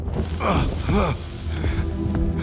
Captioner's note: grunting